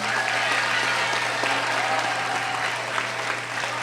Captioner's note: cheering